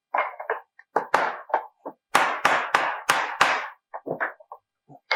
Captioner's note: hammer pounds